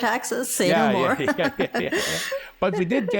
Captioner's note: people laughing